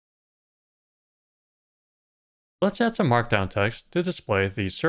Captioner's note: none